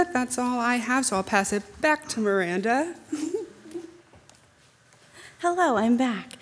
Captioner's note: chuckles